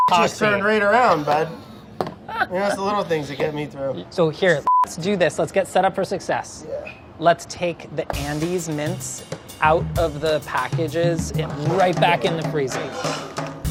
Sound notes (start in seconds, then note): 2.2 laughing